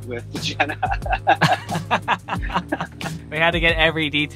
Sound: laughs

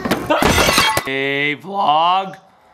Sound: glass breaking; screams

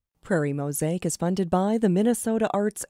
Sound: voiceover

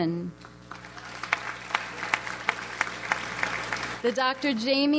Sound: audience applauds

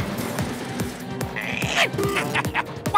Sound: grunts; chuckles

